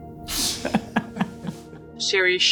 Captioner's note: laughter